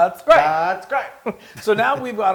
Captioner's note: laugh